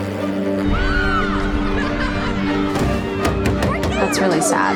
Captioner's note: children laughing